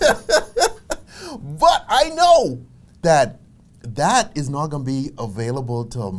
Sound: laughs

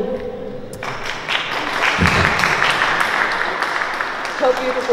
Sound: applause

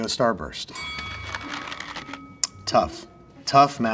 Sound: bell dings

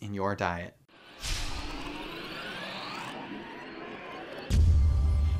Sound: electronic sound effect

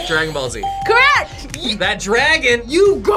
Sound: bell rings

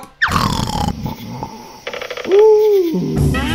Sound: snoring

